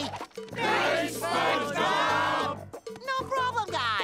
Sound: none

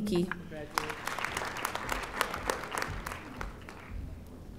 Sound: audience applauding

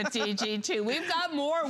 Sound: laughter

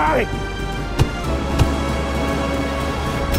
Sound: thump

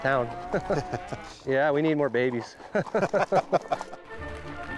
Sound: laughs

